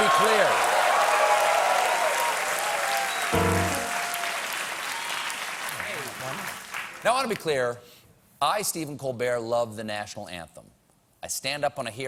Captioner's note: cheers and applause